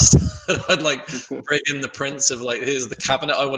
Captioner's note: laughs